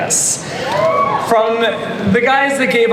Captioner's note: audience cheers